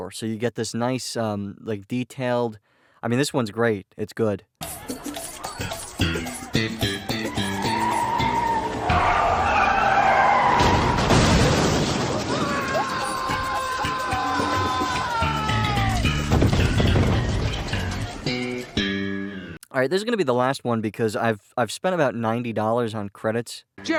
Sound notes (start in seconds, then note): 7.1 tires screeching; 10.1 crash!; 12.5 Seinfeld screams in terror as music continues playing